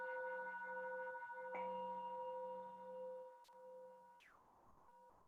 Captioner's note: chime